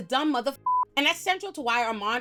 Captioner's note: beep